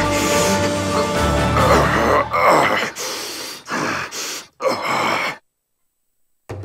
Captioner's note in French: bruits de garon qui souffre